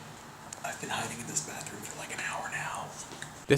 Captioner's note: whispers